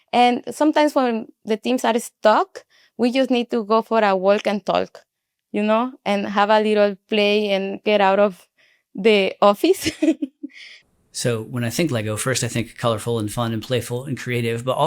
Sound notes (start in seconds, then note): 9.8 chuckles